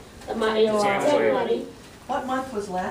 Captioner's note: students speaking in Spanish